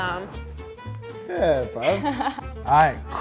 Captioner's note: laughing